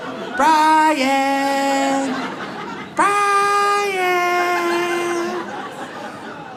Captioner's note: audience laughs